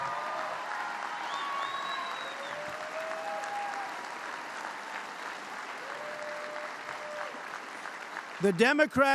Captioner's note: applause